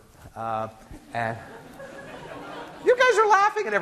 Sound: class giggling

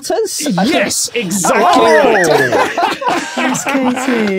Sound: group shouts, laughs

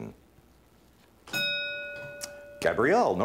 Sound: ding

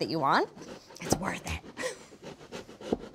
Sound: whispers

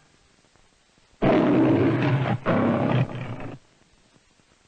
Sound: Leo the Lion roaring

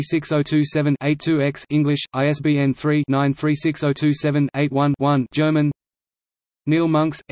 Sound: German

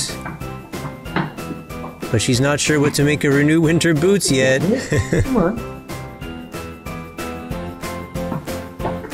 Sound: laugh

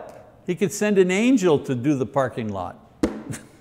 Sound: laughs

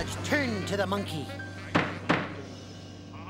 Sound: pounds gavel

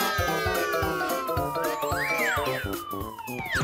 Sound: cheering

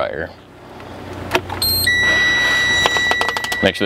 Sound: beeping

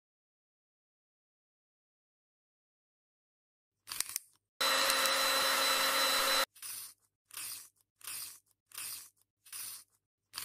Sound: sharpening

